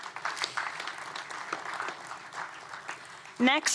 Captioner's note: applause